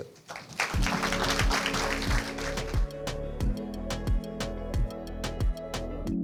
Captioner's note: audience applauds; upbeat music